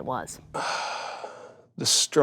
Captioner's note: sigh